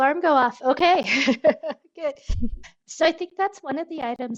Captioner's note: laughs